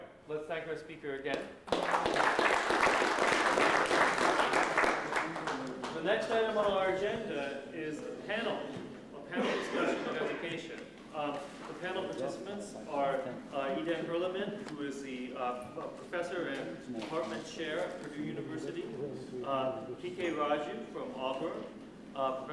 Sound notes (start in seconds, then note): 1.6 applause